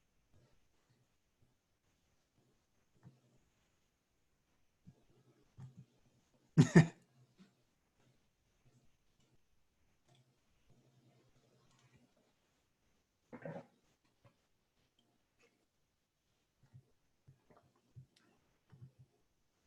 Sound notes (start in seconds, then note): 7.1 silence